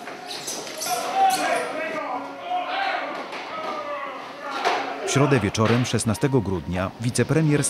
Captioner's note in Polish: odgłosy szamotaniny